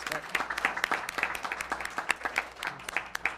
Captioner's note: applause